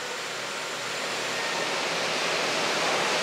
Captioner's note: machine whirring in the background